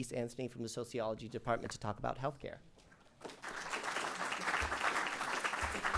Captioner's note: applause